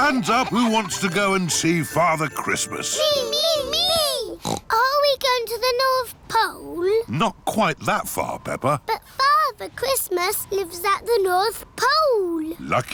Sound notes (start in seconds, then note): 0.0 both giggling; 4.3 snorts